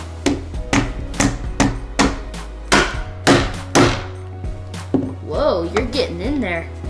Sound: hammering

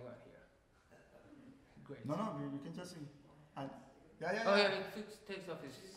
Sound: speaking in farsi

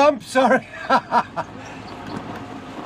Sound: laughing

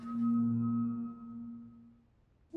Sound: pulsating

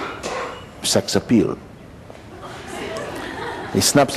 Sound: laughter

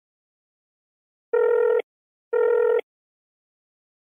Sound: dialling

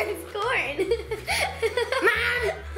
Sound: giggles

